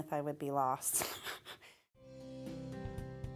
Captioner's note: laughing; gentle pop music